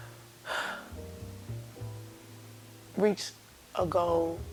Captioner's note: sighs